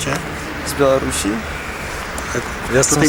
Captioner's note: speaking polish